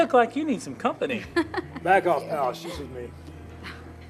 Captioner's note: laughs